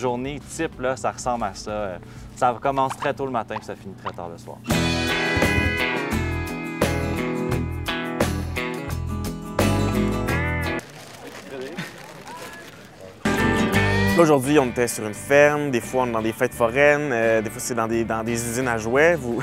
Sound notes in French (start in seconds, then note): 11.3 petit rire